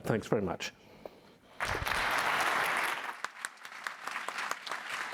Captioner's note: applause